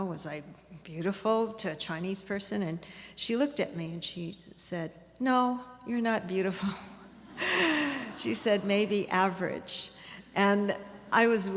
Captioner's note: laughs